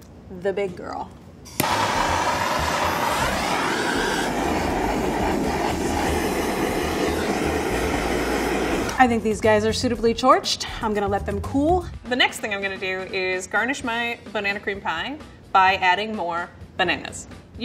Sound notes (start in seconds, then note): 1.5 blowtorch whooshing